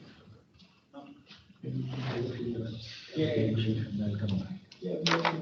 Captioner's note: people chattering